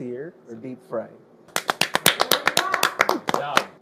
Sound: applauds

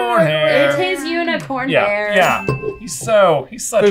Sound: hesitant

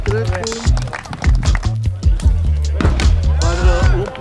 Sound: applause

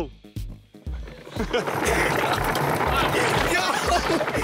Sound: car clattering

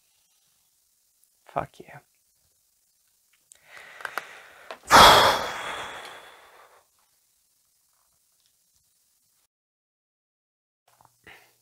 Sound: sighs

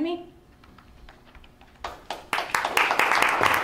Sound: applause

